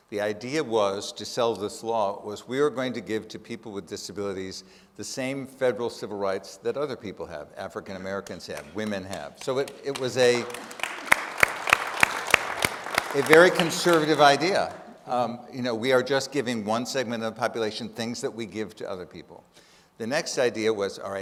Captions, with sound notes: The idea was to sell this law was we are going to give to people with disabilities the same federal civil rights that other people have. African Americans have, women have. So it was a... (audience applauding) A very conservative idea. We are just giving one segment of the population things that we give to other people. The next idea was,